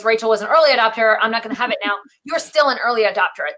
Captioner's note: laughing